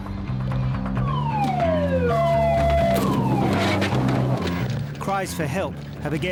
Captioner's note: siren blaring